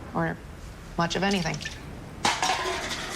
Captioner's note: can clattering